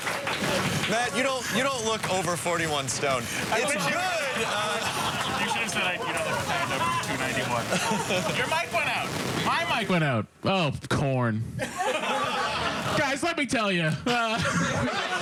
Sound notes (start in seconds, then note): 4.0 applause